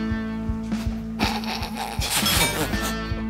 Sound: trying to hold in his laugh

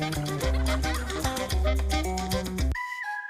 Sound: laughter

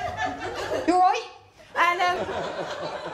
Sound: broad accent

